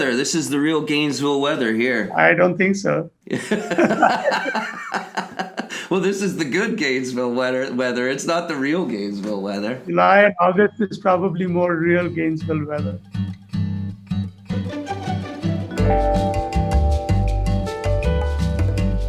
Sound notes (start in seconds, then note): 3.3 laughing; 14.2 bright music